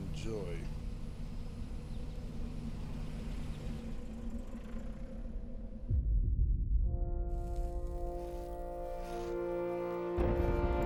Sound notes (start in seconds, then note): 0.0 engine rumbling; 0.7 eerie music; 7.5 somber music